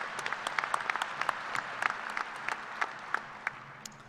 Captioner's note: applause